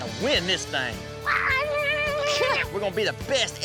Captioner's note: shouting excitedly